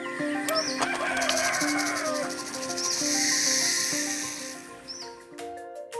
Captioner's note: rooster crows; snake hisses; bright music